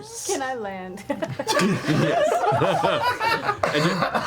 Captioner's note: all laugh